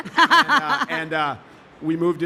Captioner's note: laughing